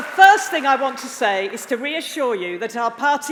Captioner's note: applause